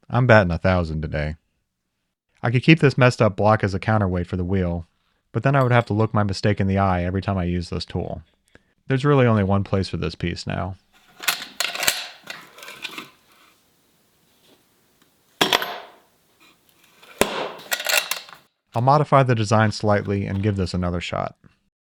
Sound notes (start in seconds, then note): 11.0 latch clicks; 16.8 tool clatters; 17.0 latch rattles; 17.0 lid slams